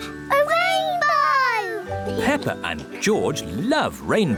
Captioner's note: none